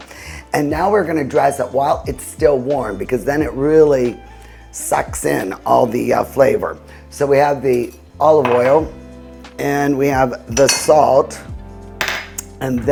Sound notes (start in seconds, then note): 8.4 cup clanking; 12.0 cup clinking